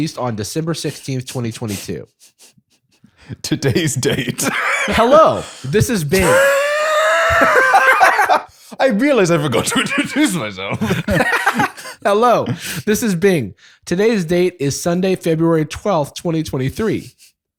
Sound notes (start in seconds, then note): 3.4 laughing; 6.2 laughter